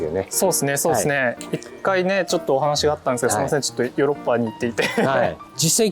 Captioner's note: laughs